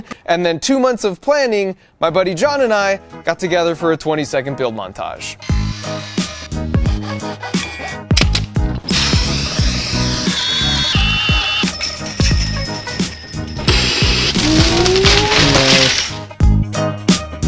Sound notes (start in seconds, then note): 5.5 upbeat music; 8.8 tools whirring